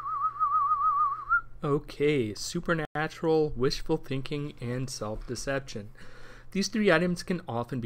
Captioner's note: spooky whistle